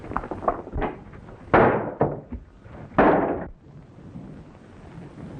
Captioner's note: loud pounding